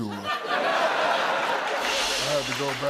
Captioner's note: laughter